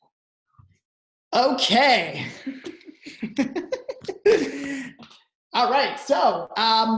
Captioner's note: both laughing